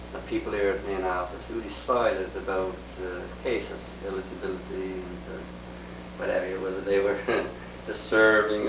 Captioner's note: laughs